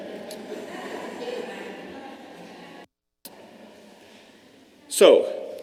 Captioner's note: laughter